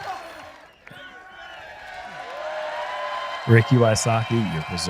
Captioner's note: applause